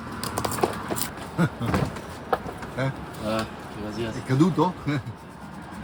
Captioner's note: laughing